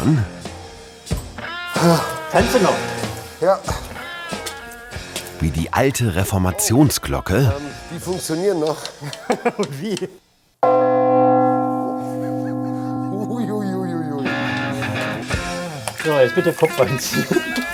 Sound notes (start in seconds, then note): 0.2 lively music; 10.6 bell ringing